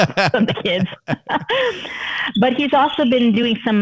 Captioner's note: laughter